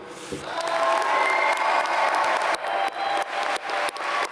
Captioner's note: applause